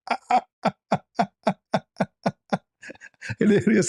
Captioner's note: ketawa